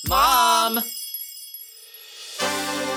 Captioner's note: chimes tinkling; glamorous music